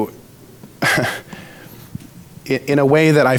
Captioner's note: giggles